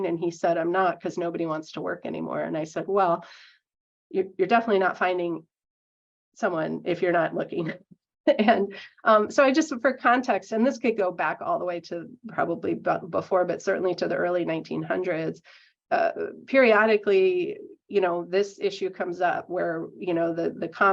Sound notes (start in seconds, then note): 8.3 laughing